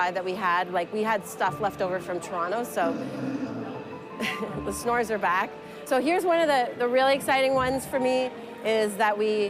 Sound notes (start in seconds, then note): 2.9 snoring